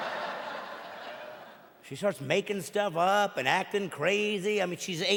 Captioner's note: audience laughing